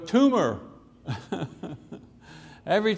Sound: laughing

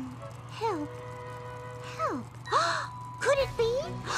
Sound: gasps

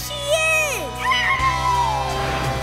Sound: howling

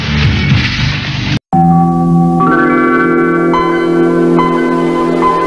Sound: Windows 95 startup sound/ Office for Windows 2000 theme plays

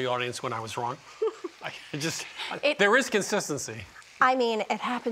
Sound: giggles

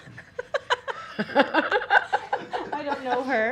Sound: laughs

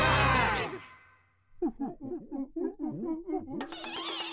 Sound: crowd makes short "a" sound; monkeys hooting

